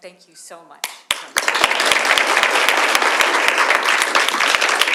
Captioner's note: audience applauds